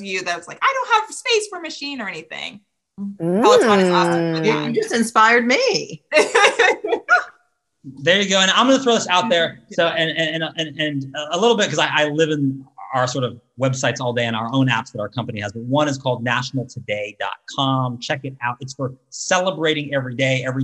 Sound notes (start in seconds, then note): 5.5 laughs